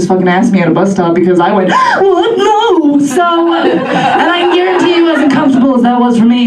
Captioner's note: big gasp